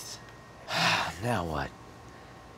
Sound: exhales

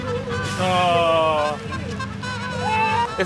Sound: groans

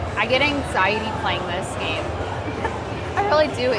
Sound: laughs

